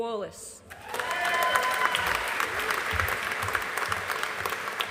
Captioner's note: audience applauding